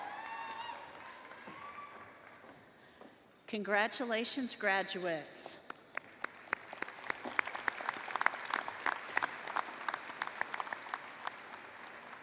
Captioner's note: applause